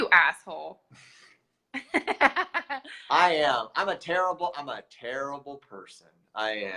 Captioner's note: laughs; chuckles